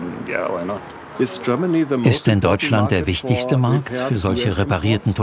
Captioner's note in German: englisch